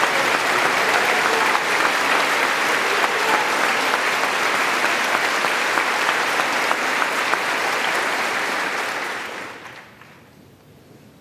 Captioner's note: applause